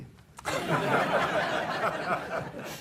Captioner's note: audience laughs